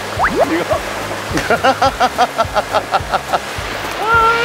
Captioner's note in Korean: 폭소